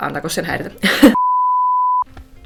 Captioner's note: beep